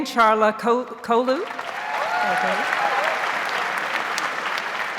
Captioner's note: audience applauds